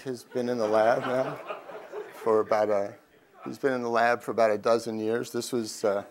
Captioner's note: crowd laughs